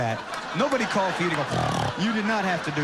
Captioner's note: snorts